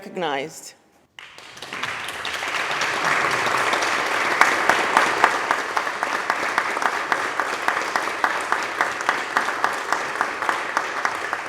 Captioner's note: applause